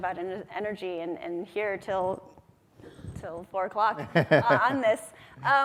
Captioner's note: laughs